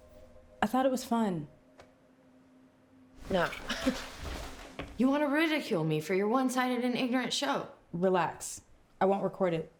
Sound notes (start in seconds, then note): 3.9 scoffs